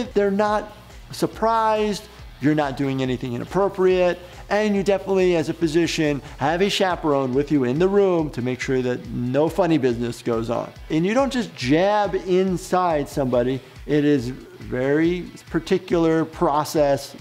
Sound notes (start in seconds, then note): none